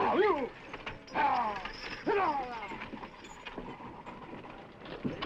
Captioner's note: horse hooves clopping